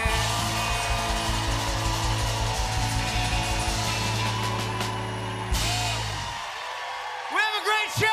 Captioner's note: cheers and applause